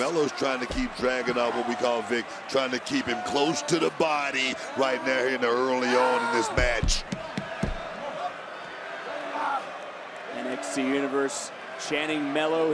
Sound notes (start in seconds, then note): 7.0 crowd chants "melo"